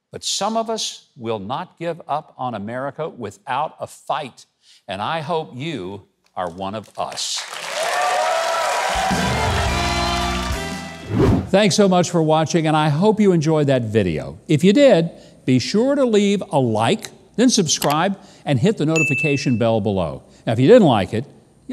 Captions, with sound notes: But some of us will not give up on America without a fight. And I hope you are one of us. (audience cheers) (jazz music) Thanks so much for watching. And I hope you enjoyed that video. If you did, be sure to leave a like, then subscribe and hit the notification bell below. Now, if you didn't like it,